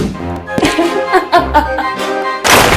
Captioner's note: laughing